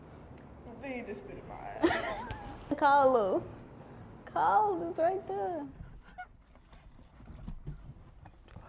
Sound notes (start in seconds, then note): 2.0 laughs